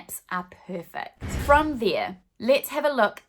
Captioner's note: swooshing